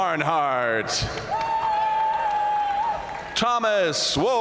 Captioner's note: audience cheering and applauding